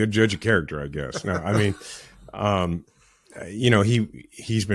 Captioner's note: laughing